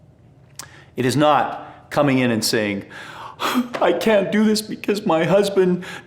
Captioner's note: sobs